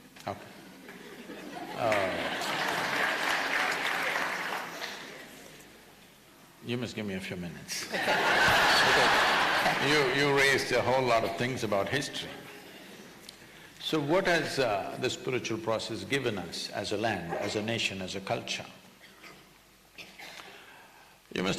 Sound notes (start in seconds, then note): 0.8 laughter/Applause; 7.8 laughter